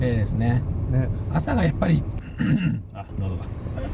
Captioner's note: clears throat